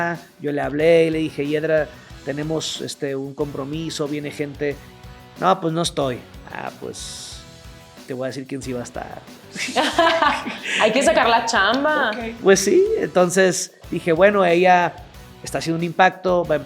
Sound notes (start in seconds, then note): 9.5 laugh